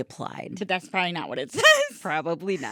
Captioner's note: laughing